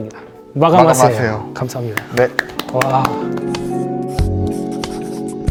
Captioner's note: clap clap